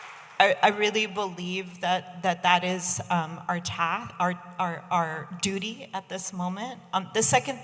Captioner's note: audience applauding